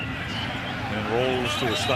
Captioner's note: whistle